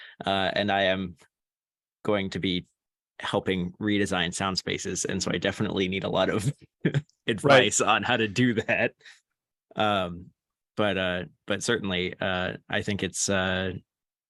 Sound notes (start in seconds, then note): 6.5 laughter